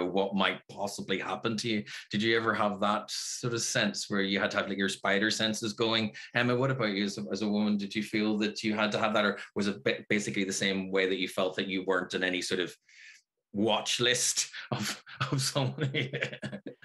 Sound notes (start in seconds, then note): 15.7 laughs